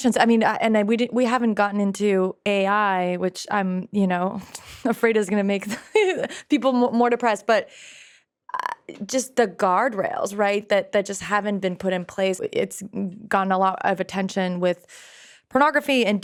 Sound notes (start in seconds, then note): 5.0 laughs